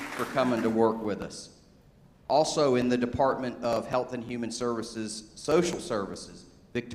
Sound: applause

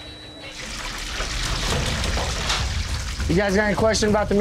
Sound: water running

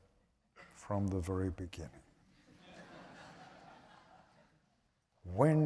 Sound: laughter

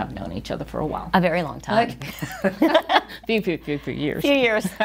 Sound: both chuckling

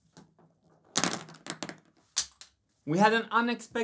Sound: pens falling

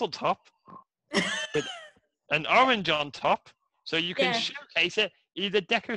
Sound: laughter

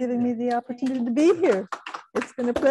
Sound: audience clapping

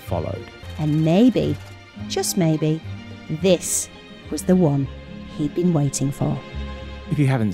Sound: female voice-over

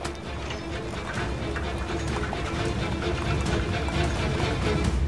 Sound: at the sound of the car

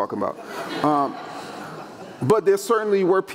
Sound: audience laughing

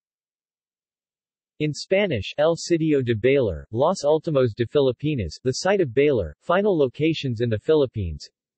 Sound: in Spanish

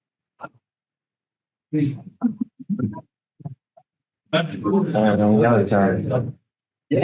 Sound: people chattering indistinctly

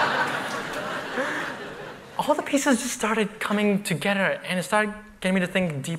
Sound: laughter

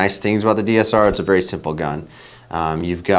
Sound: bell dings

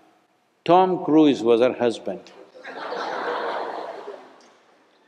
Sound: laughter

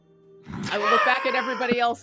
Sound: laughs

